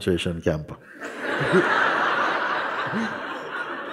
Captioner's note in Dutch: gelach